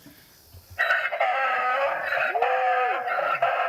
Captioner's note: hee-haw